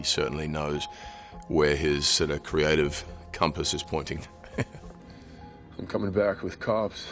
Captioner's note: laughing